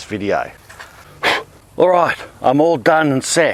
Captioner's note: blows into hat